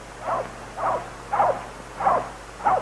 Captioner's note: dog barks in distance